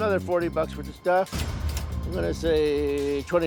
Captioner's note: cash register dings